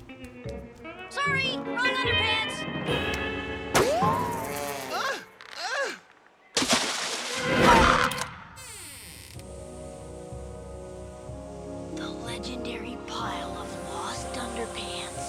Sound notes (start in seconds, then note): 6.5 water splashes; 8.5 door creaks open; 9.4 choral music